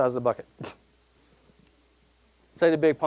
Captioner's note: chuckling